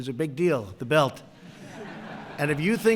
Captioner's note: laughter